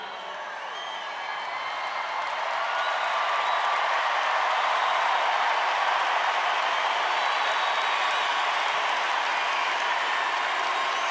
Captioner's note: cheers and applause